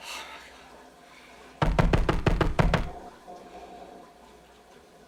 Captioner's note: banging on door